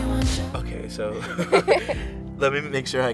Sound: both laugh

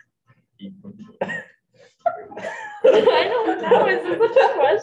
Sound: group giggles

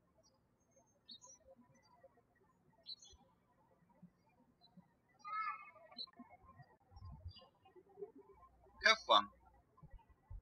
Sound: birds chirping

